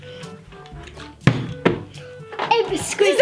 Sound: bottle landing

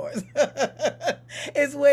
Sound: laughing

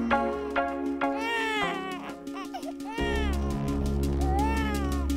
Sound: baby crying; dramatic music

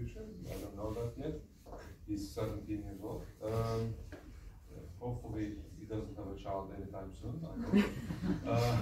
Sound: laughs

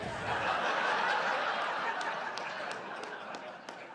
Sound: laughter

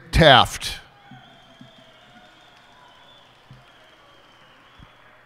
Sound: cheers and applause

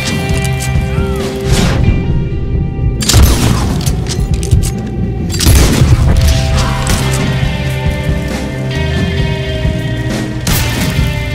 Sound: gunshots

